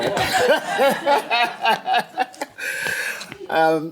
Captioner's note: laughs